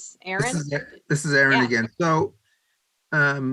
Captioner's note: laughs